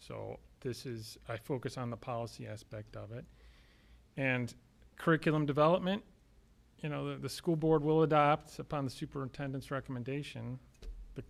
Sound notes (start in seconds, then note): none